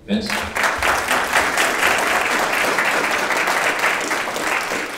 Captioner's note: audience applauding